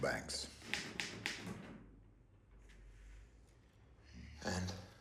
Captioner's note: typewriter clacks